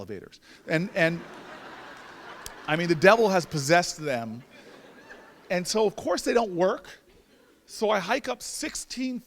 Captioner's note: laughter